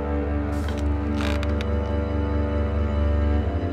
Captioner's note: ceiling creaking